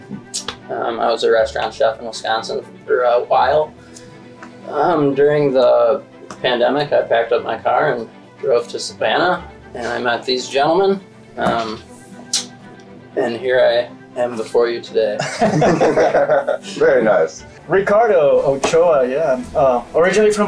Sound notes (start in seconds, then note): 15.2 everybody laughing